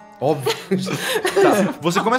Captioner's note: laughs